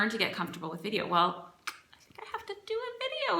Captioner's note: clicks tongue